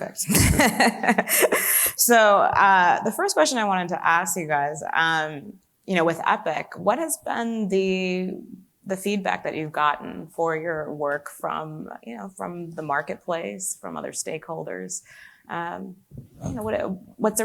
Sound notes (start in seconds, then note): 0.3 laughs